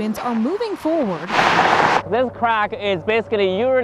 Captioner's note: vehicles whirring